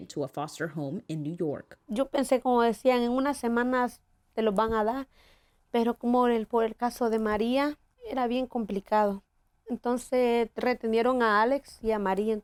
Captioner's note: speaking Spanish